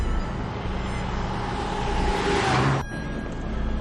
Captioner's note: car passing